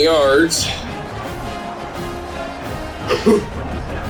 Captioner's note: crowd Noises